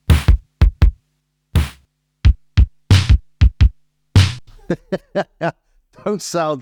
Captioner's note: laughs